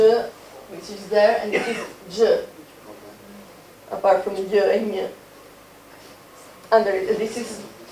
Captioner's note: speaking foreign language; speaking foreign language